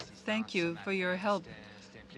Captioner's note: speaking French